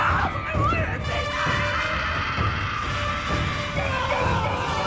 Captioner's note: dark intense music; Elaine screams; Will screams